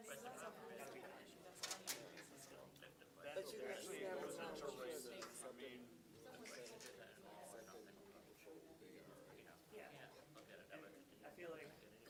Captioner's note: students chattering